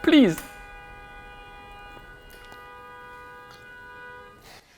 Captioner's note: car horn blares